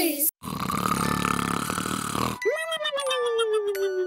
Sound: loud snoring

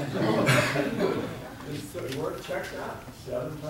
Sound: audience laughing

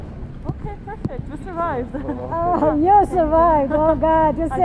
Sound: laughs

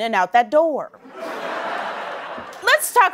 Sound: laughter

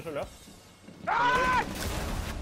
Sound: screaming

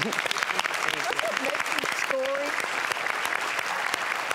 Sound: audience applauds

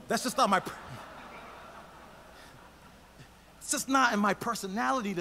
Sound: audience laughs

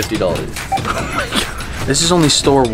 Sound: laughs

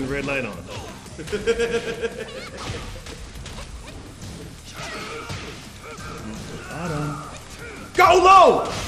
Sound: laugh

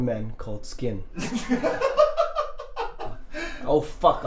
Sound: laughing

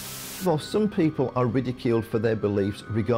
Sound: electric buzzing

